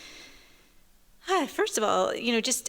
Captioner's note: sighs